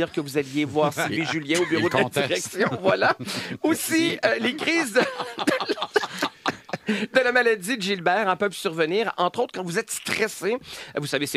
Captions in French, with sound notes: dire que vous alliez voir Sylvie Julien au bureau de la direction. Voilà! Aussi, les crises de... (rires) ...de la maladie de Gilbert peuvent survenir, entre autres, quand vous êtes stressé. Vous